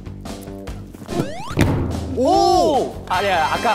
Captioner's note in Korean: 두둥